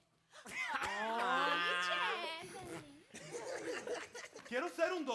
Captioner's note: speaking Spanish; performers chuckle; speaking Spanish